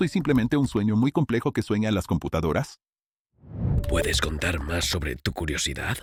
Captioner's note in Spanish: susurrando